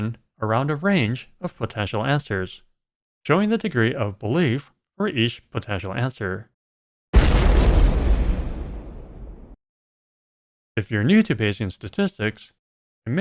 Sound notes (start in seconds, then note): 7.1 explosion sound